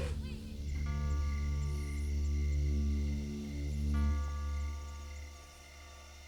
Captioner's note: tense music; bell rings